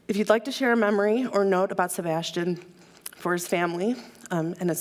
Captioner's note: none